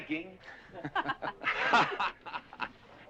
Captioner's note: laughter